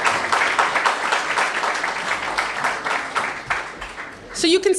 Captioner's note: applause